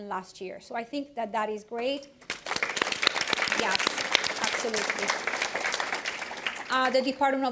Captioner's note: applause